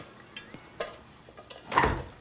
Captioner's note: door closes